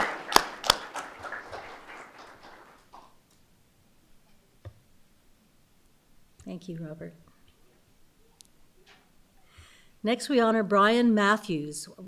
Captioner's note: applause